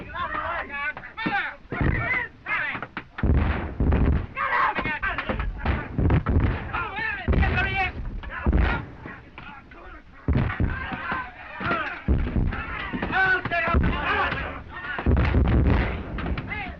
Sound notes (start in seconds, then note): 2.2 all shouting